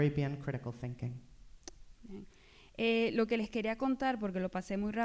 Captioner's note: speaking spanish